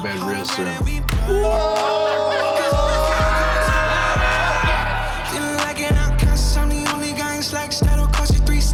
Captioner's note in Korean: 웃음 소리